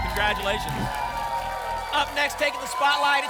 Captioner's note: whoosh